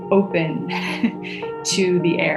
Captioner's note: laugh